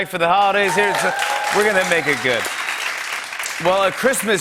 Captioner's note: cheering and applause